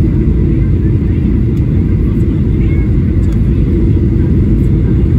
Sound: chatter; airplane Engine

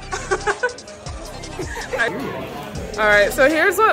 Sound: laughter

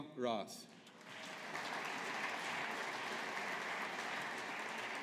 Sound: audience applauding

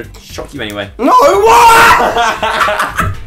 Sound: screams; laughter

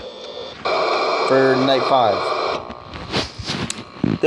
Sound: Static

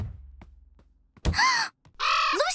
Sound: gasping

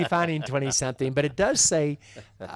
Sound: laughs

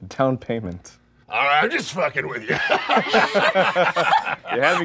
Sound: laughing

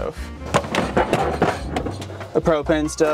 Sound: items rustling

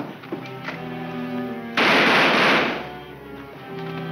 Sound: gun fires

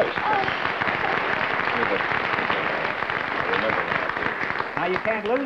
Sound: applause

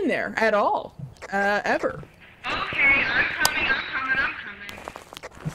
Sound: over Radio

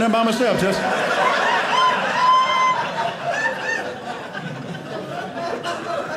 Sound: audience laughing

